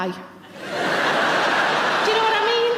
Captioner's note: audience laughing